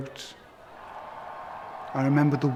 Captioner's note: cheering